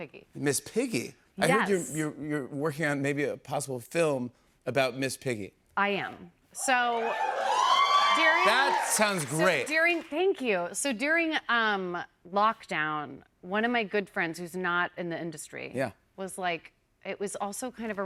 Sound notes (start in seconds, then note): 6.8 cheers and applause